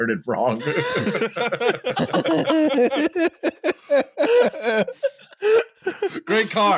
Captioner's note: laughter